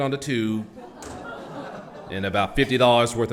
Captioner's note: audience laughs